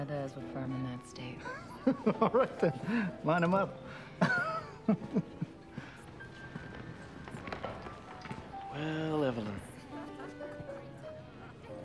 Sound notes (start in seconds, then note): 4.2 laughs